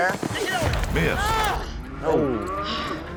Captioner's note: exclaims